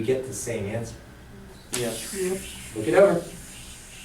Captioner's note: voiceover